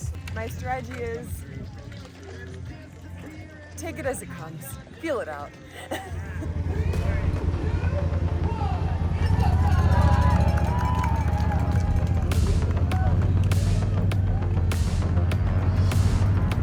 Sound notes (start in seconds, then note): 6.9 countdown to start and applauding